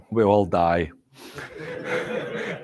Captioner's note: laughter